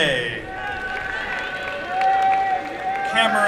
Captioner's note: applause and cheering